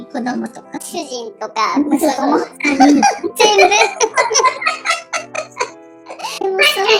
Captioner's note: laughs